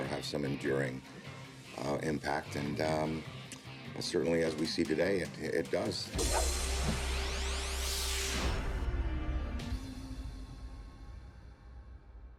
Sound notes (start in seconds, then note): 6.2 whooshing